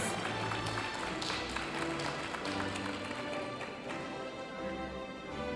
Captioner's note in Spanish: aplausos de la audiencia